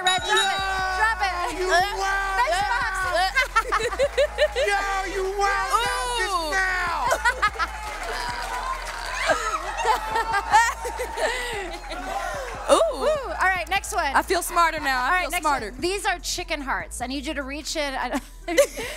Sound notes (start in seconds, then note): 3.4 laughs; 6.5 laughs; 18.3 laughs